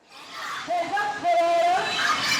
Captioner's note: people protesting